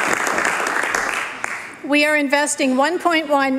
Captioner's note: applause